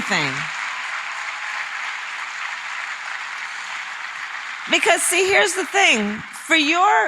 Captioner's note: applause